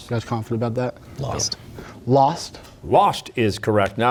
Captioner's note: whispering